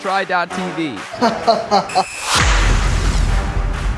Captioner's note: laughs